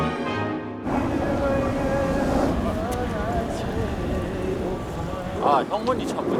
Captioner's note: he is humming out of content